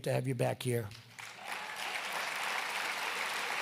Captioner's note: applause